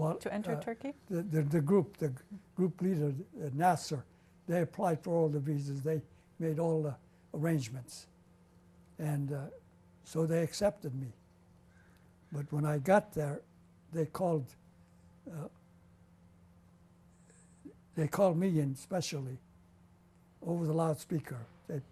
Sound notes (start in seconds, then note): 14.6 pauses for 3 seconds